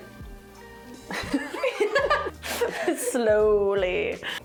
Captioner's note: laughing